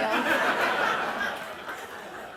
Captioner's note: laughter